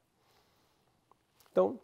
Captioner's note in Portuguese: pausa sonora